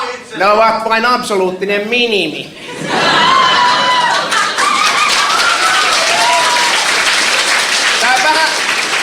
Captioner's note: laughter, applauding